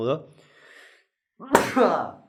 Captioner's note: sneeze